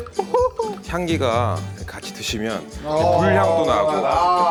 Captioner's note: sniff sniff👃